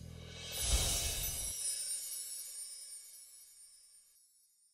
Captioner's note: sparkle sounding